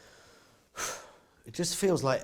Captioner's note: exhales